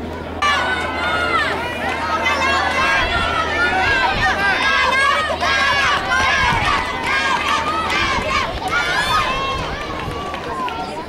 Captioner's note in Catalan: La gent anima